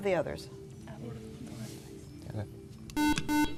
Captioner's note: beeping